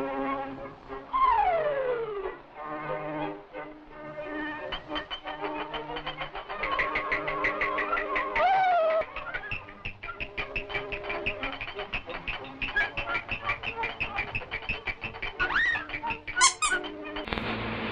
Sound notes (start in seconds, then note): 16.5 squeak